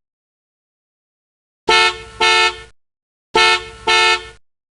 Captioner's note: school Bus Horn Honking